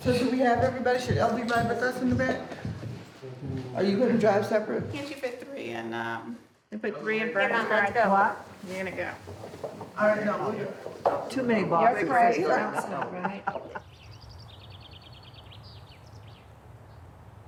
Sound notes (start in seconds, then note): 12.4 laughter